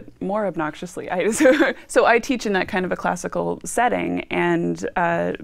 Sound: laughing

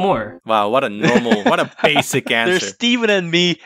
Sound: laughs

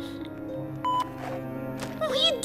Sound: beep

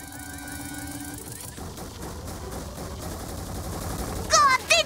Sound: footsteps pound

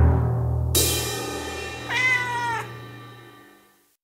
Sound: cat meows

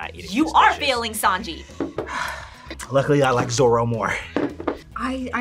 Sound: sighs

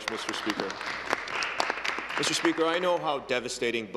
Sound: applause

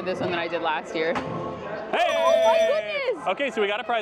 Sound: alarm rings

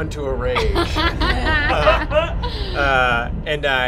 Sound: laughing

